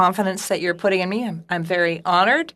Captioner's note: speaking FRENCH